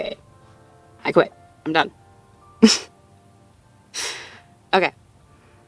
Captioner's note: speaker chuckles softly